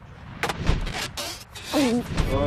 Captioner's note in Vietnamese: tiếng nuốt ực; tiếng ken két